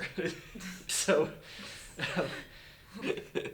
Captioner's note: chuckle